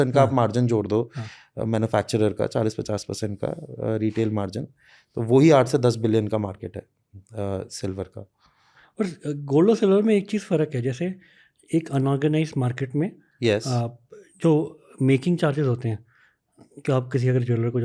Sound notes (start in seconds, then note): 7.4 speaks in Hindi